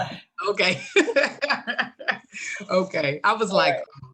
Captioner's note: laughter